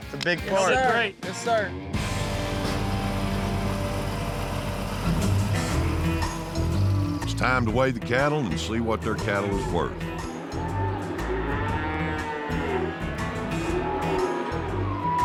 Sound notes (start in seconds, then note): 1.9 engine rumbling; 11.2 mooing